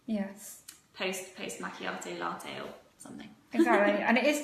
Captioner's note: laughing